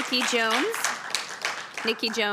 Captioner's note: applause